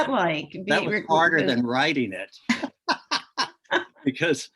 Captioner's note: laughs